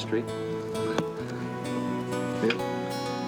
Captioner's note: thumping